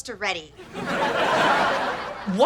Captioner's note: audience laughter